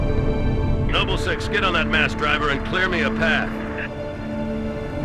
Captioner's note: radio